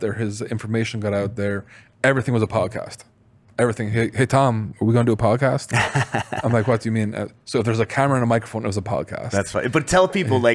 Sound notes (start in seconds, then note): 5.7 laughs